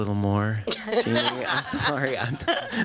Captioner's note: laughter